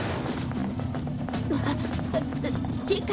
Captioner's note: gasps